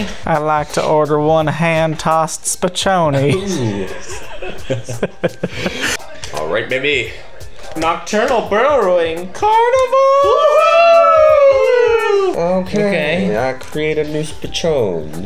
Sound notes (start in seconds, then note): 3.2 laughs; 3.3 all laugh; 10.0 all shriek with excitement